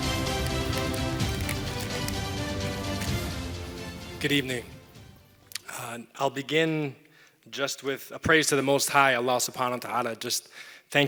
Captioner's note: foreign language